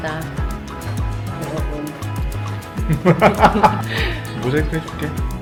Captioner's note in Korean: 웃음